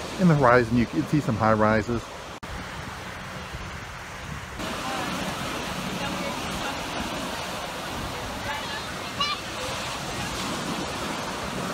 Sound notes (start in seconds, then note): 2.8 water splashing; 6.1 crowd chattering